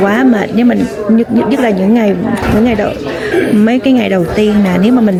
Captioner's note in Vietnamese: hắng giọng